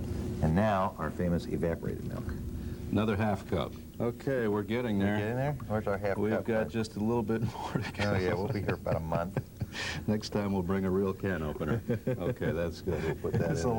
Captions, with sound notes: nd now our famous evaporated milk. --Another half cup. Okay, we're getting there. We've got just a little bit (laughing) more to go. --Oh yeah, we'll be here about a month. --Next time we'll bring a real can opener. --(laughing) --Okay, that's good. We'll put that in there.